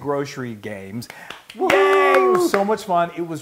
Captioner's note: applause